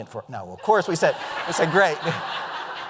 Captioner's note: laughter